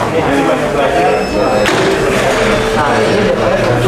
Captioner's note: distant chattering; press machine sound; distant chattering